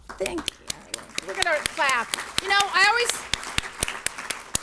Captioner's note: audience applauds